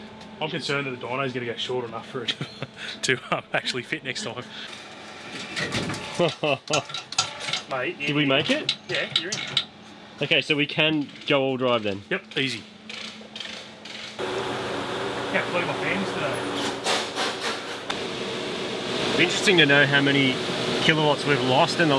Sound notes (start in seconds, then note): 14.1 loud dyno fan